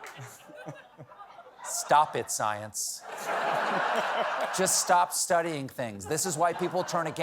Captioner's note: laughter